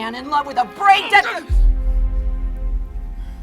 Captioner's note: grunts